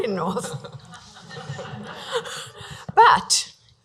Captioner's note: laughing